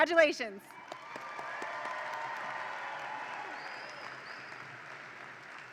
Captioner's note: audience applauds and cheers